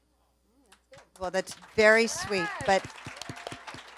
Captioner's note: audience applauds